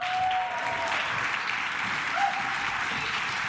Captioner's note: claps